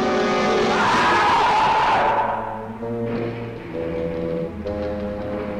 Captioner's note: creature screeching